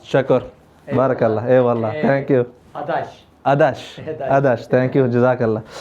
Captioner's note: Turkish